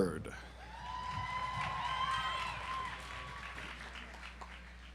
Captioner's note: audience applauds